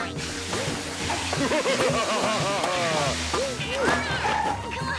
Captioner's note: evil laughter